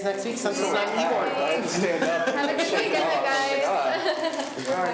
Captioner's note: laughs